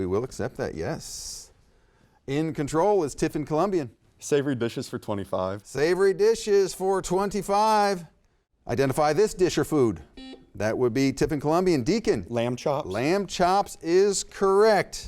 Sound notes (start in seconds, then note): 10.1 buzzer beeps